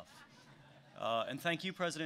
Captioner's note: laughter